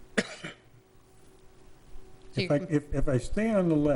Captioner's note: person coughing